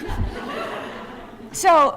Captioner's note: laughter